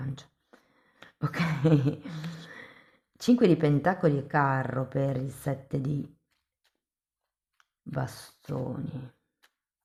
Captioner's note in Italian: risate